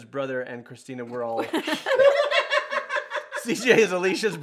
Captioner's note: all laugh